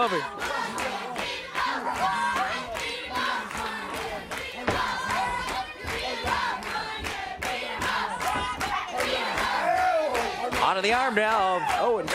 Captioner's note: crowd cheering